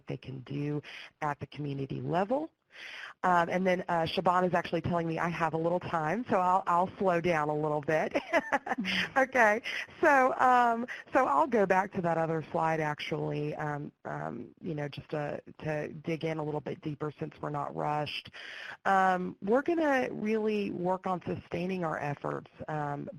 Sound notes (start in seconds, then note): 8.2 laughs